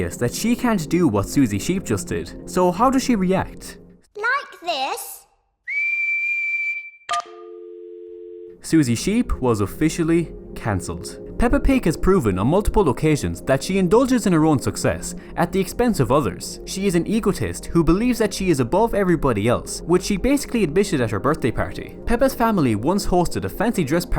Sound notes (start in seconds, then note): 5.6 whistles